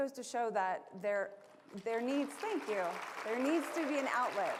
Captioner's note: applause